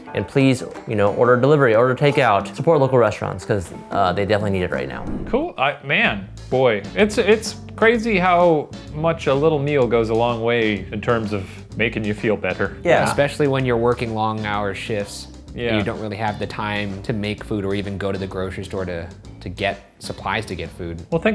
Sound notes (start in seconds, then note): 4.8 air whooshing